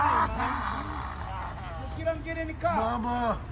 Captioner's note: cries